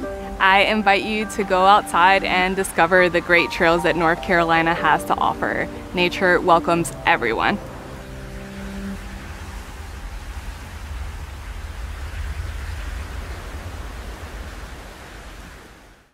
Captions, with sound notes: - I invite you to go outside and discover the great trails that North Carolina has to offer. Nature welcomes everyone. [water rushing]